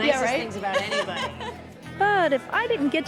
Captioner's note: laughs